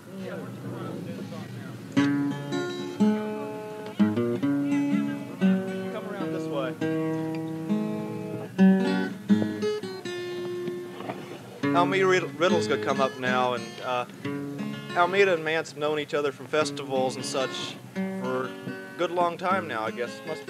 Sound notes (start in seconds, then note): 6.8 guitar continues; 11.9 on microphone